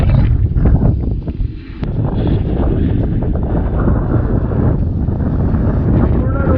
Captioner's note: heavy wind sound